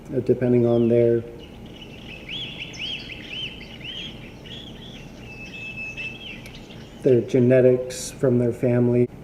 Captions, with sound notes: depending on their.... *birds tweeting and chirping* ... ....their genetics from their family.